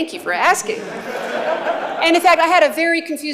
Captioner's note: laughter